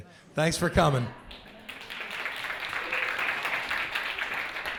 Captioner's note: applause